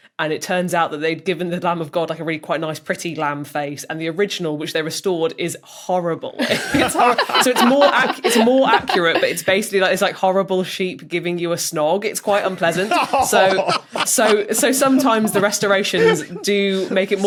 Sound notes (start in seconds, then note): 6.4 others laughing; 12.3 others chortling